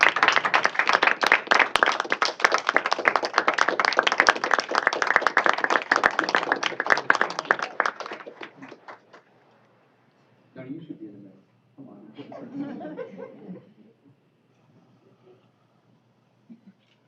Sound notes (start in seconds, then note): 3.7 applause